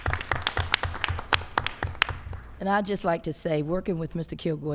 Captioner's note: applause